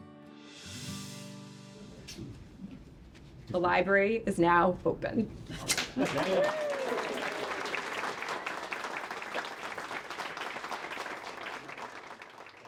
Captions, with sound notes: - The library is now open. (audience applauds)